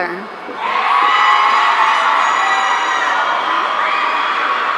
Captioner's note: audience cheering